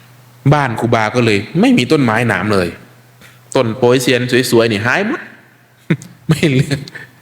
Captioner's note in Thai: เสียงหัวเราะ